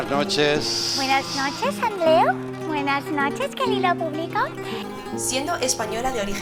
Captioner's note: in mocking accent